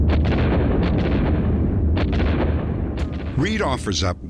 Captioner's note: gun shots